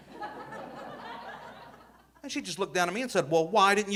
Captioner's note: audience laughing